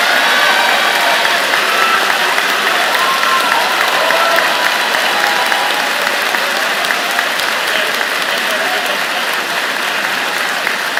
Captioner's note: cheers and Applause